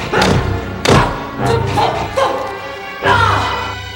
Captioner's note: grunting